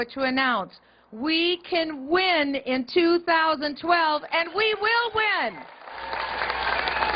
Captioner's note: cheers and applause